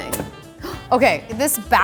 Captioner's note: clunking; gasps